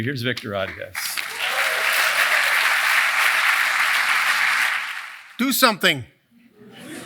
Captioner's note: applause